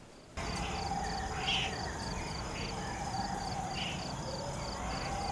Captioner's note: animal vocalizations